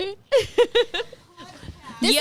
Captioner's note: laughing